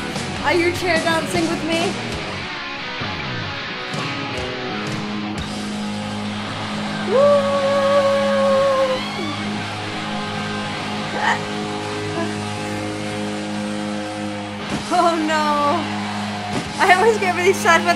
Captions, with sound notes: - Are you chair dancing with me? (heavy-rock music) (audience cheering) Whoa. (laughing) Oh, no, I always get very sad